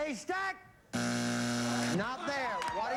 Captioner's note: buzzer